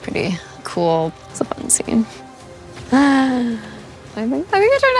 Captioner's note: sighs